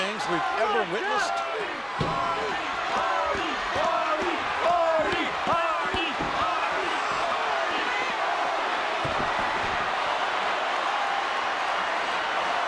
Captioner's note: applause